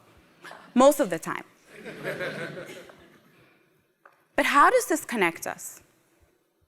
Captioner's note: laugh